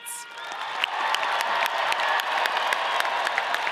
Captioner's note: audience cheers